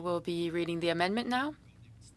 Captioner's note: speaking French